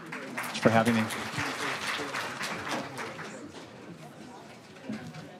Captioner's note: audience applauds